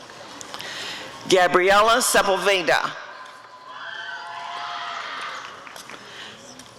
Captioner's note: applause and cheering